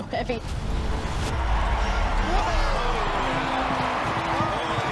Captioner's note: crowd cheering